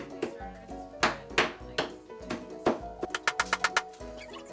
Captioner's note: taps